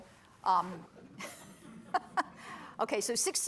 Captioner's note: laughter